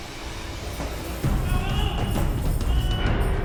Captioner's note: screams